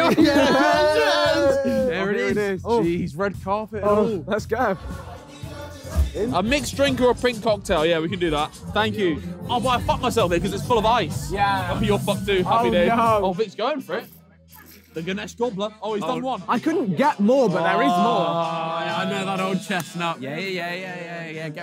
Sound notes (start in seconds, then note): 0.0 all laughing and cheering; 5.0 upbeat music; 17.5 groaning